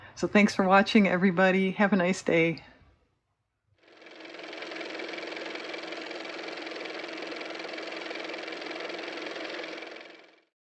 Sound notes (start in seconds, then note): 6.6 car motor